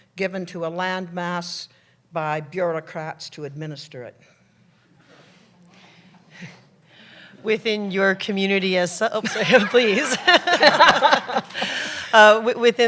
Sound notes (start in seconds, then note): 4.6 audience chatter; 9.2 laughter